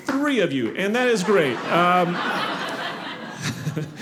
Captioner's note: audience laughing